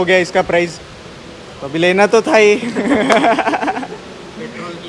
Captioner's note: laughs